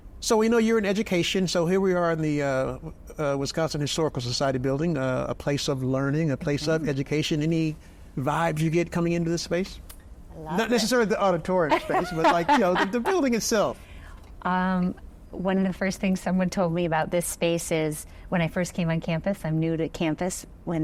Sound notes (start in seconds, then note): 11.7 laughing